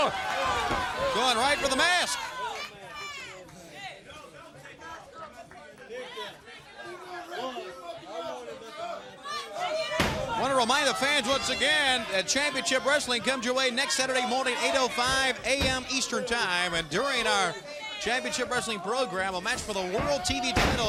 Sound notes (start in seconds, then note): 2.9 crowd chatter